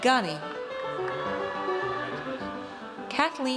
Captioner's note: audience cheers